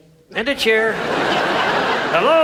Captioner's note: audience laughs